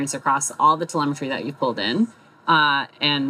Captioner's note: none